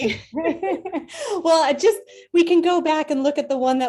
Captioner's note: laughs